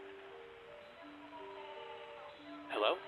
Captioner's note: echoing; echoing